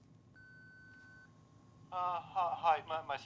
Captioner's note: machine beeps